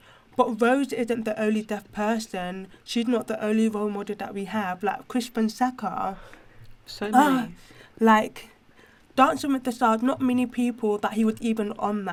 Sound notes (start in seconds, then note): 7.1 sighs